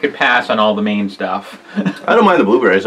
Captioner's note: laughs